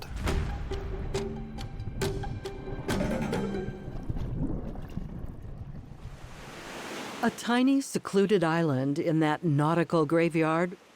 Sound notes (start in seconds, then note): 0.0 intense strings and percussion; 4.1 bubbles in water column; 5.8 waves brushing shore